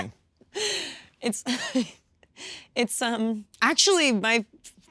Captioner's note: Kristen laughing